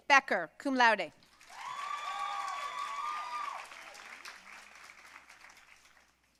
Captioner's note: audience cheering and applauding